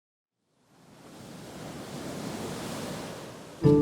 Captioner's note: surf crashing